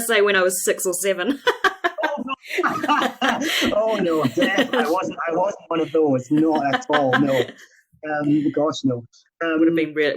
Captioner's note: laughs